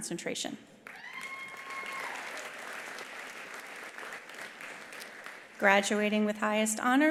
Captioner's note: attendees applauding; attendee cheering